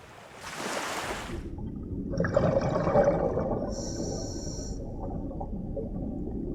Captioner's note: diver's heavy breathing